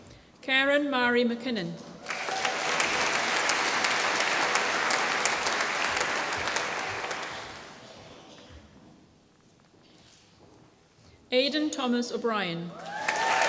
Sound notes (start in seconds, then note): 2.0 applause; 12.8 applause